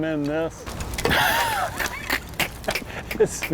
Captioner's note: laughter